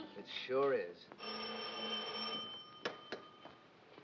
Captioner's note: telephone rings